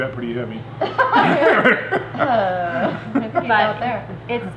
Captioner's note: laughing